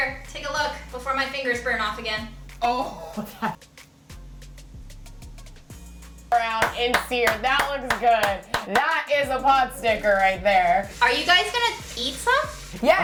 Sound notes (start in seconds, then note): 6.6 clapping